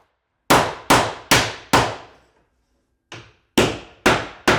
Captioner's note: hammer pounding